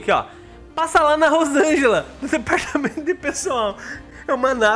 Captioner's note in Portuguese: risos